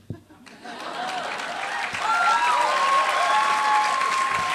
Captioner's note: applause